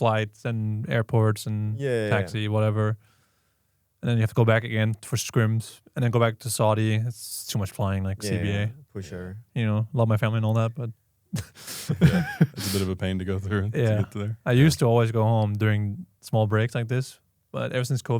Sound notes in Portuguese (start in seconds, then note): 11.3 risos